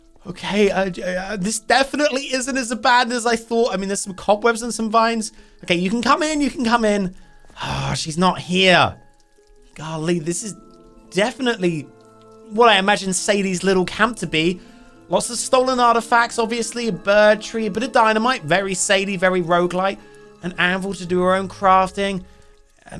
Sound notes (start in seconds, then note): 7.7 grunts